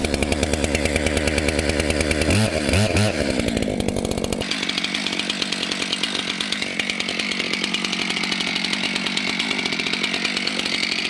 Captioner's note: sound of chainsaw